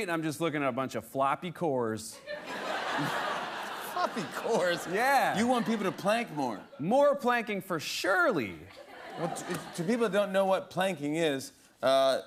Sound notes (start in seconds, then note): 2.2 laughter